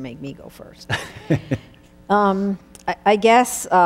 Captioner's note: laughing